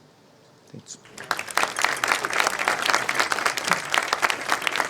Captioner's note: audience applauding